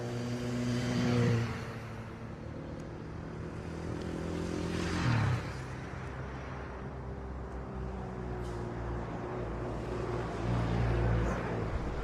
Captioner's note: car buzzing